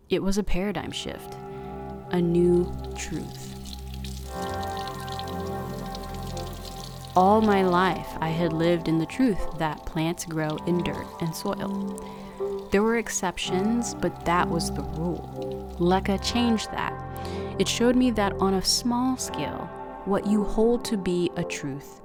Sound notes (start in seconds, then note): 3.6 faucet water running